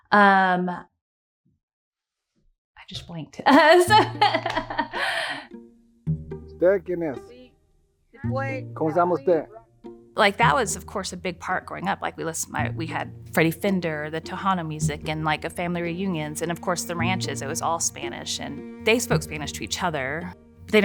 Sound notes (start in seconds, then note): 3.5 chuckling; 7.0 family member speaking in Spanish